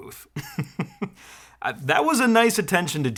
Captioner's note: laughing